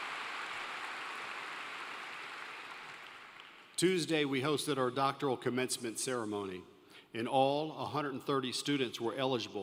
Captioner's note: applause